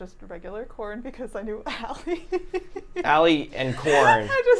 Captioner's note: laughing